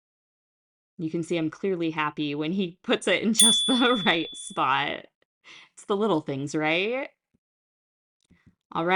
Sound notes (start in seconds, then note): 3.4 chime